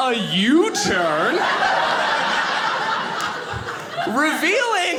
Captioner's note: audience laughing